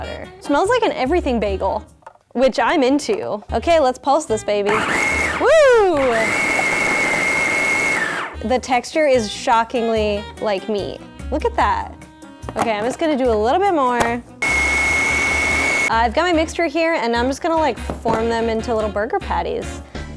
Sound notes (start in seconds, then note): 6.3 whirring; 14.4 whirring